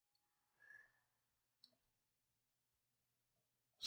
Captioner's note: silence